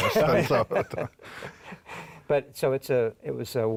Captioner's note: laughs